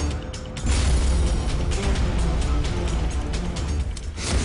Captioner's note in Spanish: Explosión